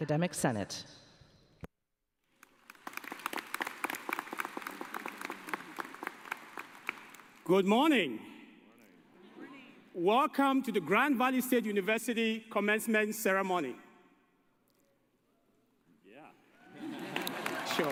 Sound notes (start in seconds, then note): 5.7 cheers and applause